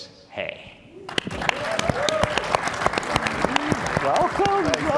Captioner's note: attendees clapping